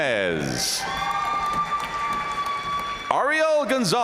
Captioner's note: audience cheering